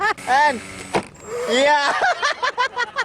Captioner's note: laughing